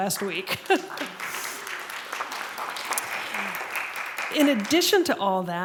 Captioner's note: applause